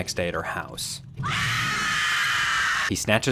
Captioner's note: Tammy screams